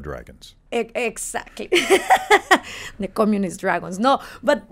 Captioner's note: laughs